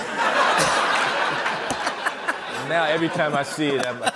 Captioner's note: laughter